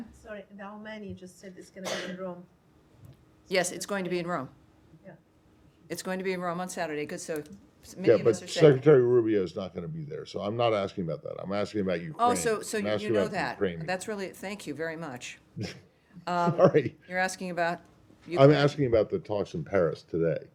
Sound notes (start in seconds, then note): 16.4 laughter